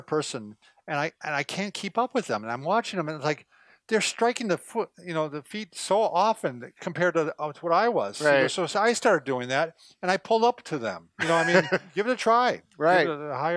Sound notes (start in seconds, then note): 11.2 laughs